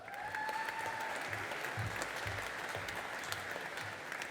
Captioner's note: audience applauding